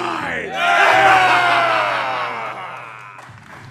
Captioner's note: pirates roar; applause